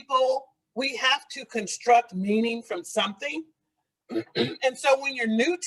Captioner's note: clears throat